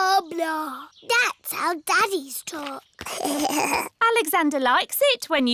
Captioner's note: alexander giggles